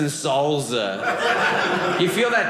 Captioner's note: audience laughing